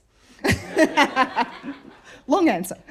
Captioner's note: laughter